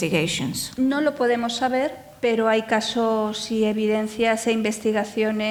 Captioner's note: speaking in foreign language